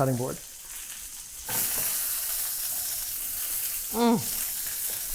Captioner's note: meat sizzling; grunts